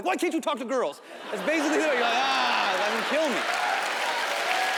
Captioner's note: audience laughs